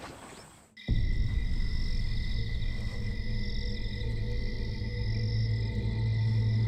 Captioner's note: crickets chirring; suspenseful music